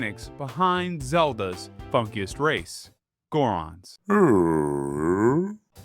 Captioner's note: Goron Grumble